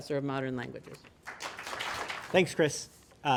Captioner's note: applause